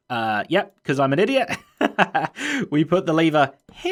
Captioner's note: laughs